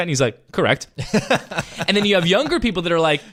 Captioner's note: laughing